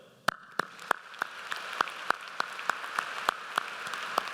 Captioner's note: audience applauds